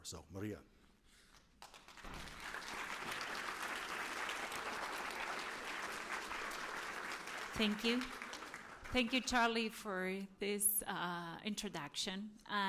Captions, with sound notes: So Maria. [APPLAUSE] Thank you. Thank you, Charlie, for this introduction.